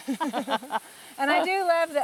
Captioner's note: both laughing